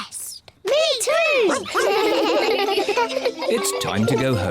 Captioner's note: giggle